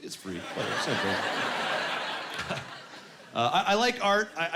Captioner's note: laughing